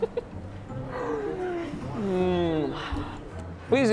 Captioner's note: laughs